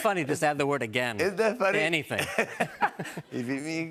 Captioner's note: both laugh